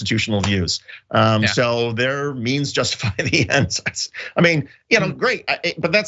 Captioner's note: laugh